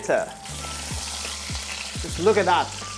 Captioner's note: sizzling sound